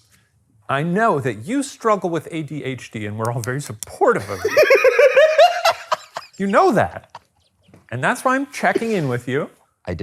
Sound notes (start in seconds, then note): 4.2 laughing